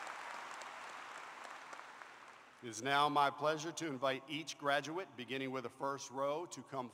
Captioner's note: applause